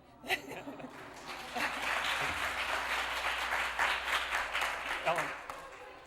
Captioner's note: applause